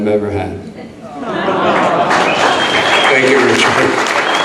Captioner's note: audience applauds